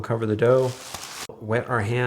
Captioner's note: plastic wrap crinkles